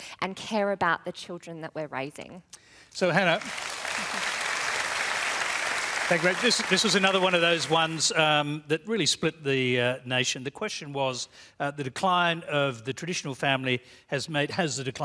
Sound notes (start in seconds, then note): 3.0 applause